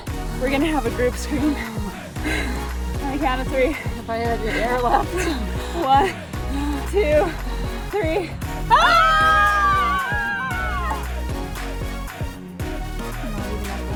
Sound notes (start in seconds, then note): 8.7 screams